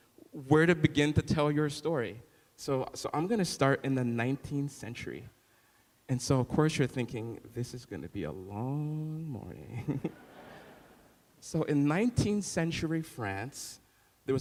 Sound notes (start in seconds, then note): 9.8 laughing